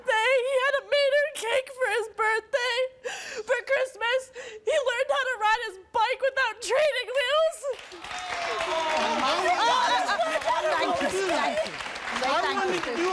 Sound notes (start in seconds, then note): 7.7 crowd cheering